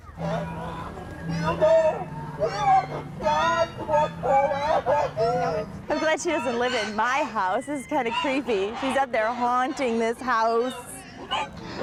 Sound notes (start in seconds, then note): 1.5 haunting voice; 11.6 haunting voice